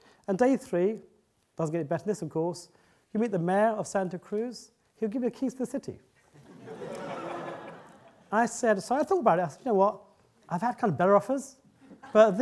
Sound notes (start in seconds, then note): 6.3 audience laughing